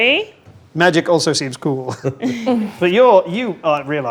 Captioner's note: laughs